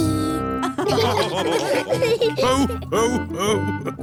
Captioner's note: all laughing